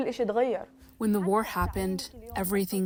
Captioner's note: through translator